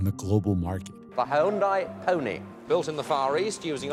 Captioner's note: soundbite of archived recording